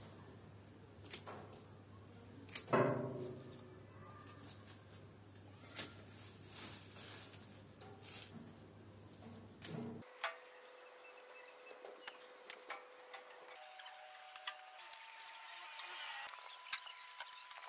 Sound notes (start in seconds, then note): 7.6 occasional birds tweeting; 10.8 camera mechanism whirring at speed